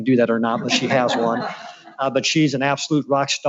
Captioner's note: laughs